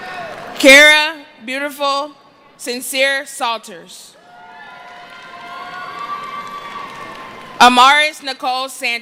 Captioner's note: cheering